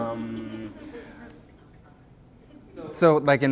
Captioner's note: voiceover; laughter